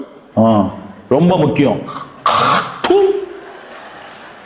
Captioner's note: popular song; spits